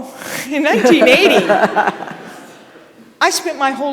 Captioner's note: audience laughing